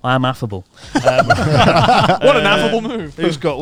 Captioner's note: all laughing